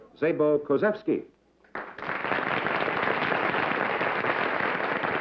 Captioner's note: applause